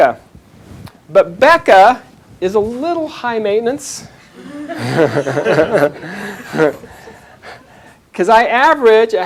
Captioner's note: chuckles